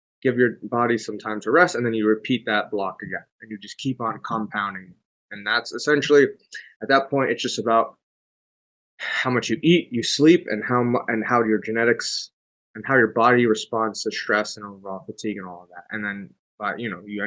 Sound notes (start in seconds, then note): none